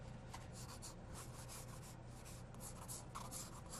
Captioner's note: pencil scratching